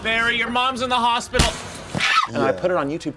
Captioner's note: screams